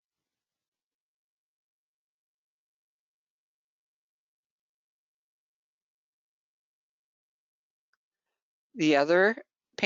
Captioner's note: 8 seconds pause